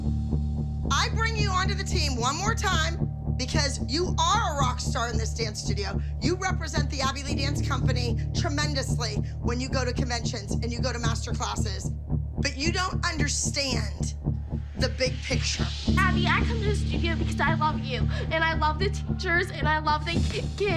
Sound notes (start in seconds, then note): 15.1 sobbing